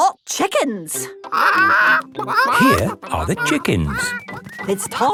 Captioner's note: clucking